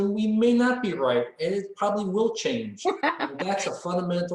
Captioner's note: laughs